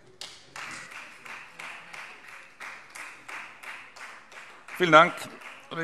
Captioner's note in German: Beifall Freie Demokraten